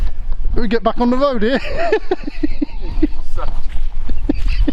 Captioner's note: laughs